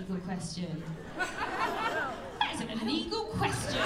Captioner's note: laughter